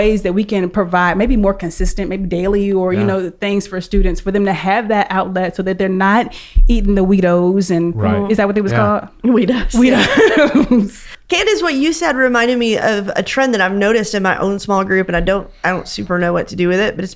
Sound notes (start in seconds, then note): 9.7 laughs